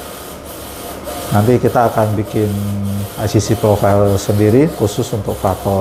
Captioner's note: printer machine noise